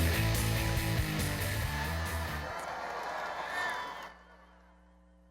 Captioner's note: cheers